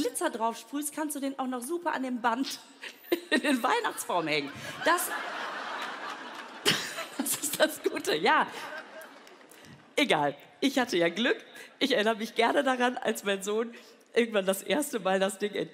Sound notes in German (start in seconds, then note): 8.5 lacht